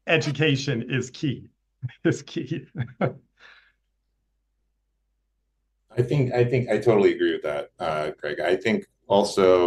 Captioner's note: laughter